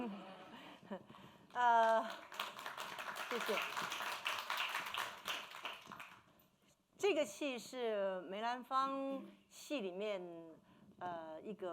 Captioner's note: speaking Mandarin